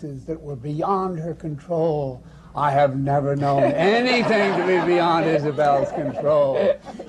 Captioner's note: laughter